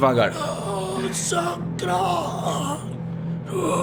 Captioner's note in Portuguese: Grunhidos